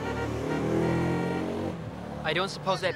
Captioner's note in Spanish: toque de bocina